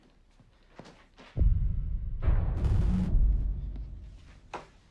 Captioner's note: ominous bangs